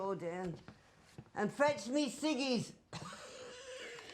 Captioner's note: coughing; coughs